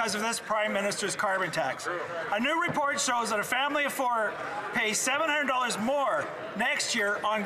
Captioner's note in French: voix de l'interprète